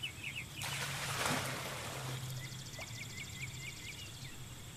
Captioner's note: water splashing